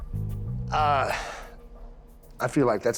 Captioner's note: sighs